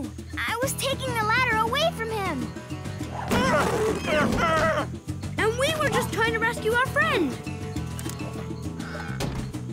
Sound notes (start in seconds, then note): 3.2 roars